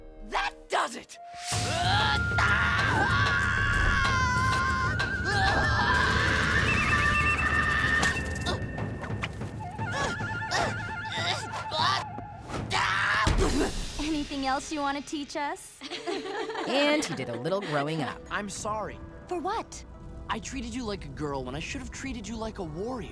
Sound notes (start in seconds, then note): 1.6 screaming; 10.5 grunting; 12.7 screams; 15.8 laughing